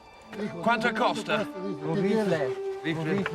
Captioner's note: speaking spanish